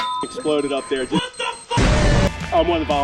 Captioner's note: beeps; WTF Boom Man Voice; loud explosion